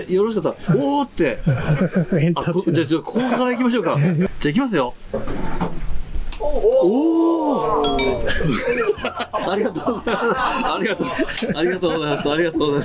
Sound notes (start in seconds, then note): 6.4 viewers cheering